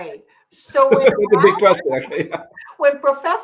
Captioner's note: laughs